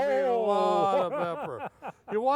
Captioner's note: laughing